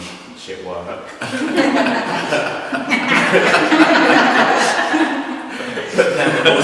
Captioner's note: laughter